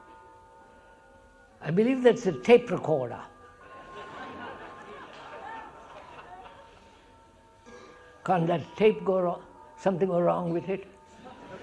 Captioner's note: laughter